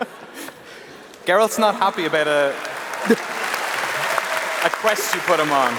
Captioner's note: applause